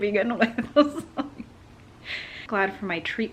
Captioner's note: laughs